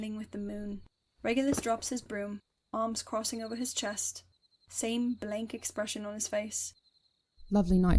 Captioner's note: broom clatters on the ground